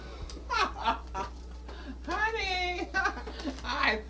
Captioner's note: laughter